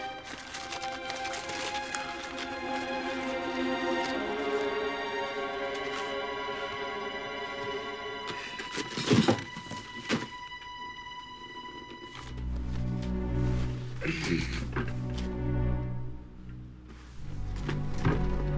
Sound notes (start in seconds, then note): 14.0 grunts